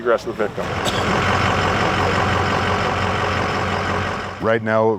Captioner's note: boat motors roars